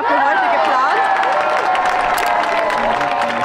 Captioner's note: applause